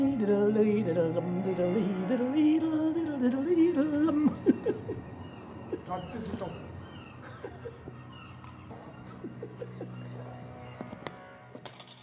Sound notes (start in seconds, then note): 3.8 chuckles; 6.8 chuckling; 7.4 birds cawing